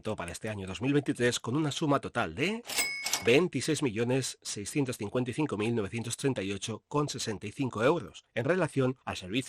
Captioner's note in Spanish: sonido de caja registradora